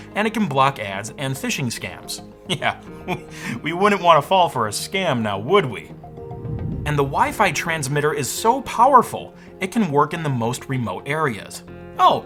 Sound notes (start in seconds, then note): 2.8 laughs